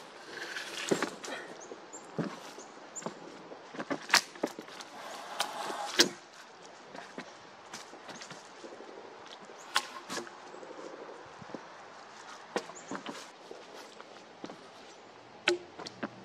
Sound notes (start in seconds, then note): 0.0 footsteps in leaves, wood being dragged on wood; 2.1 footsteps, dragging and dropping wood on wood; 11.4 footsteps